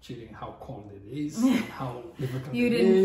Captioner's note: laughs